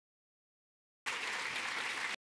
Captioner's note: audience clapping